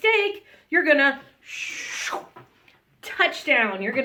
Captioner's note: whooshes